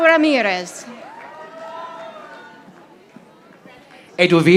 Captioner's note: audience applauding